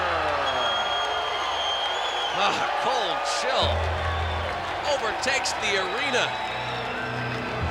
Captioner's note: applause